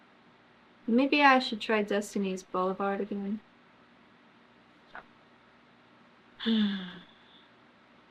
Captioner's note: sighs